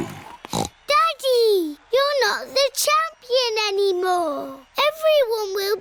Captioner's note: snorts